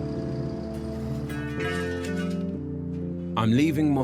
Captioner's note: metal clanging